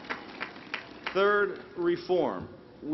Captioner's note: cheers and applause